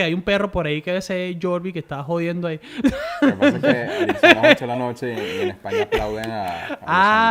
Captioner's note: laughs